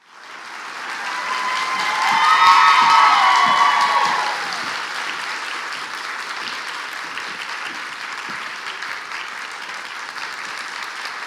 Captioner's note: clapping